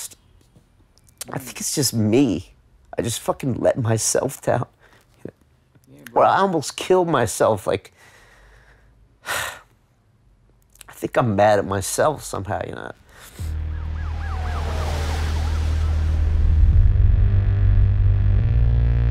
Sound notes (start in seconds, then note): 8.9 sighs; 13.4 siren blares; 13.4 low key electronic music